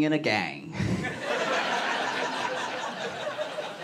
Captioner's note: laughter